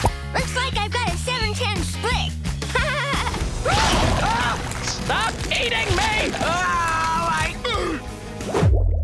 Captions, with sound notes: Looks like I got a 7-10 split. [laughing] [screaming] Stop eating me! [screaming]